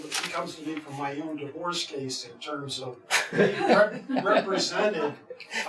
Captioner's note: laughs